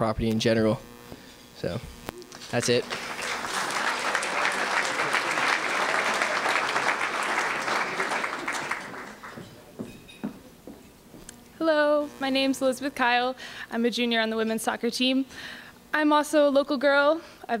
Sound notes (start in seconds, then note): 2.3 applause